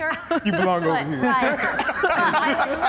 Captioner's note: laughing